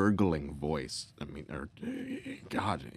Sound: heavy inhaling

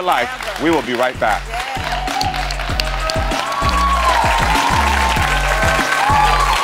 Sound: audience applauds and cheers

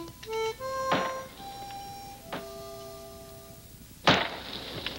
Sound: ax thudding

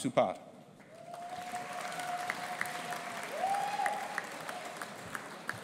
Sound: audience applauding and cheering

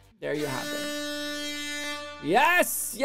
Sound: siren blaring

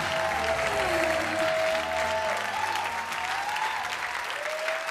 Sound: race car zooms

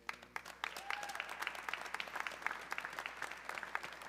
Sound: audience clapping

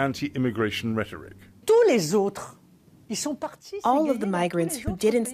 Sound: through translator

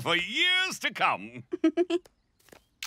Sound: laughing

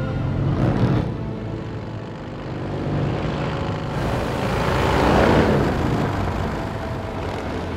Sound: engine roaring

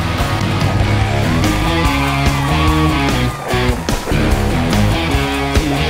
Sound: audience cheering

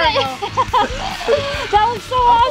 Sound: laughing

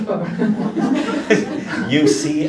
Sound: laughter

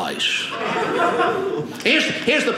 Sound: audience laughing

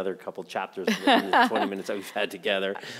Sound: chuckling

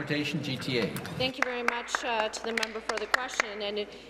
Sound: applause

